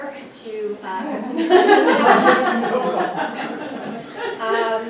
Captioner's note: audience laughs